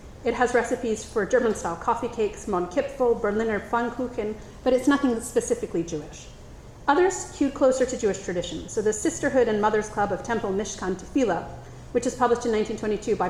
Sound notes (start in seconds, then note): 2.9 speaks in foreign language